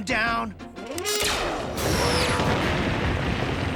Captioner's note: gun firing